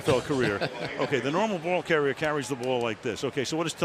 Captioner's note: laughs